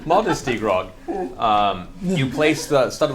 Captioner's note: all laugh